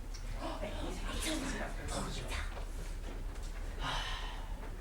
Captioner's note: sailors whispering in grammelot